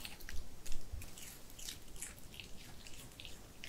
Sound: crunch crunch

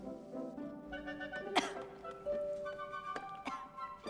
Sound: coughs

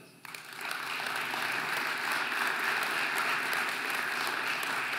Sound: audience applauding

